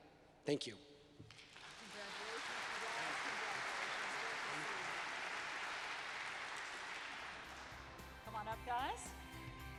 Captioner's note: applause - Music